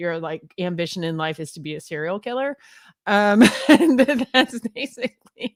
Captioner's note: laughs